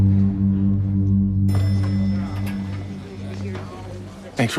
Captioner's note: elevator bell dings